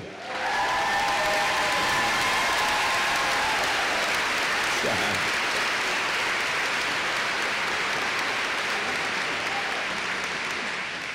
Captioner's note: applause